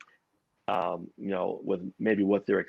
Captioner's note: audio distorts